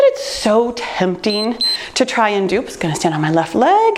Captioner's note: timer beeps